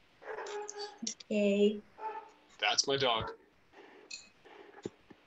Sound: dog barking

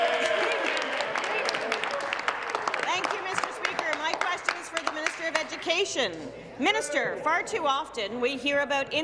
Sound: applause

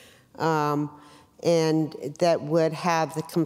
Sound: none

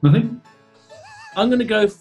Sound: sniggering

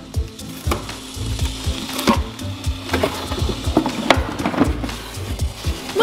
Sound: box rattling; toy gears grinding

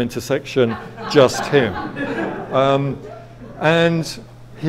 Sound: audience laughs

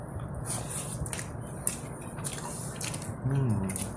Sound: slurpp chap chrap chrap chrap

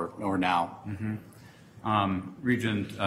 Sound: humming affirmatively

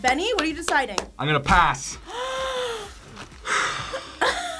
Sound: React gasps; sighs; laughs

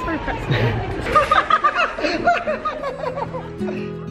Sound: laughing

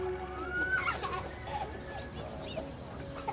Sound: laughter

